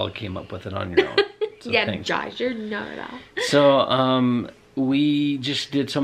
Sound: laughs

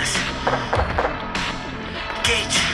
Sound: gunshot noises

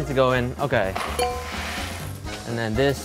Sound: bell clinking

